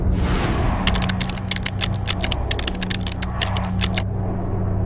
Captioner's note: keys tapping